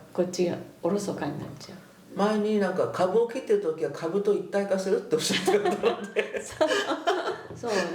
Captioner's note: laughs